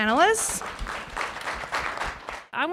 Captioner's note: applause